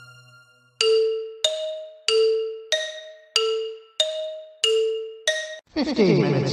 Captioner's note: clock ticking